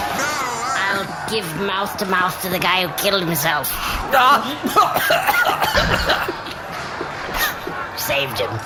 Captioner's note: blowing; coughing